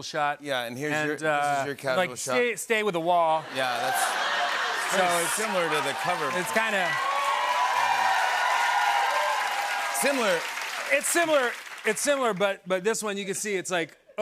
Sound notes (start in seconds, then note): 3.5 laughter, cheering, and applause; 7.5 cheering and applause